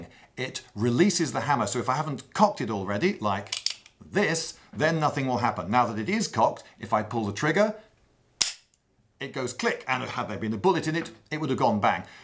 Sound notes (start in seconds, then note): 3.4 clicks; 8.4 snap sound